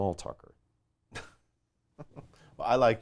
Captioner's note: laughing